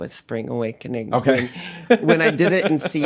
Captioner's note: laughing